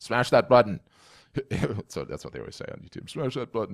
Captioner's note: laughs